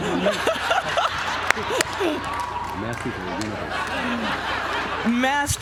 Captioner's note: laugh